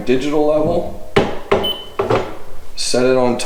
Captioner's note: level beeps